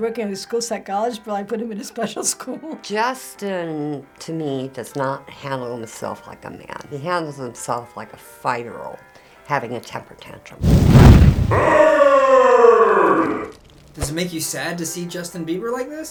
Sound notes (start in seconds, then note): 10.6 flames crackle